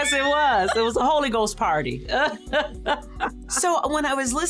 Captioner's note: laughs